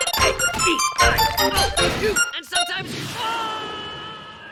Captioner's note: screams